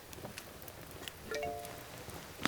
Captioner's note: phone chimes